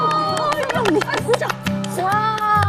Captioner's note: applause